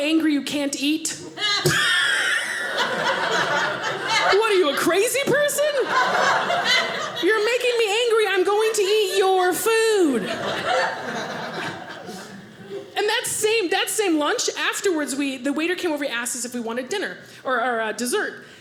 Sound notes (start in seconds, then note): 1.3 audience laughing; 10.1 audience laughing